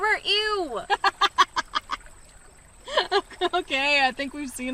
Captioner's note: G laughs